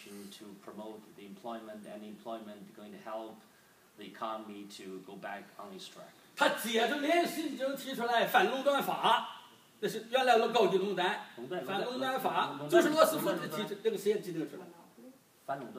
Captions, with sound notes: to promote the employment, and the employment going to help the economy to go back on it's track. (speaking foreign language)